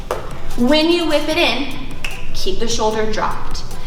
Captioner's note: snaps